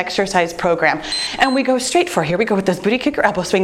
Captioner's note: timer beeps